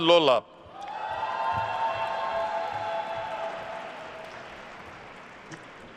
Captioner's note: attendees cheering and applauding